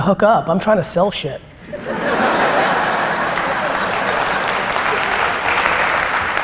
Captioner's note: applause and laughter